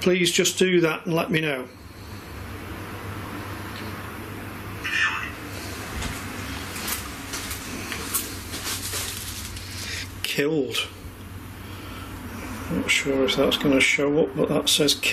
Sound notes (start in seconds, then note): 5.2 robotic voice